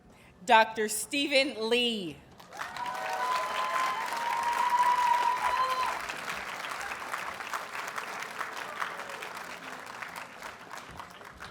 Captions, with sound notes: Dr. Steven Lee. [Audience cheers and applauds]